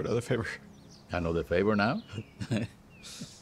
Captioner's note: laughs